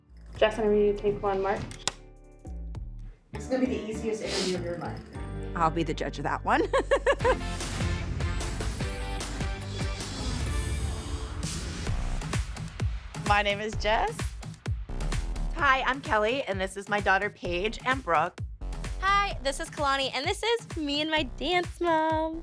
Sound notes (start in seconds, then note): 6.6 laughs; 6.9 upbeat music playing